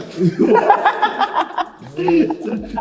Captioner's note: laughs